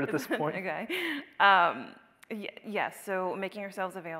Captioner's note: laughs